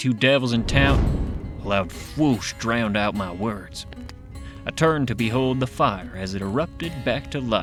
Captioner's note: fwoosh